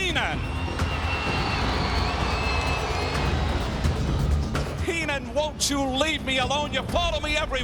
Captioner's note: applause